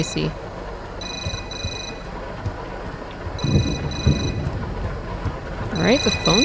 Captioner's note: phone rings